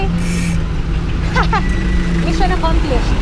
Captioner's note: laughs